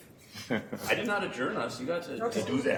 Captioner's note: chuckling